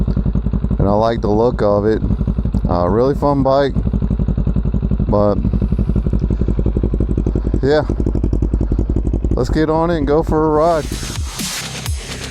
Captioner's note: exhaust note